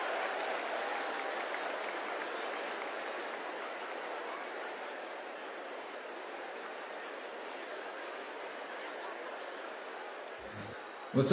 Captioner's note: cheers and applause